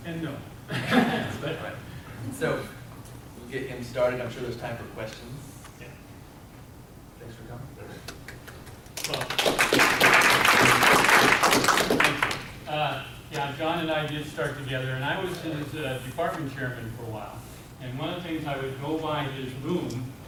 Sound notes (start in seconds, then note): 8.9 applause